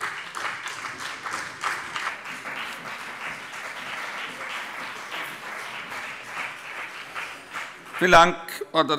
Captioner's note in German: Beifall BÜNDNIS 90/DIE GRÜNEN und vereinzelt CDU